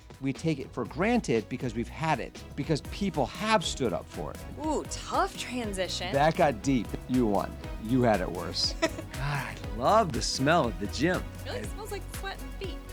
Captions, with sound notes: We take it for granted because we've had it because people have stood up for it. Ooh, tough transition. That got deep. You won. You had it worse. (laughing) God, I love the smell of the gym. It really smells like sweat and feet.